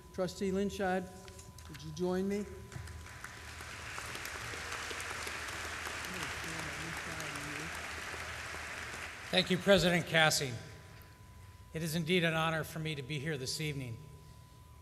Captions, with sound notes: Trustee Linscheid, would you join me? [applause] >>Thank you, President Kassing. It is indeed an honor for me to be here this evening.